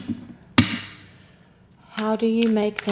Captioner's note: shuffling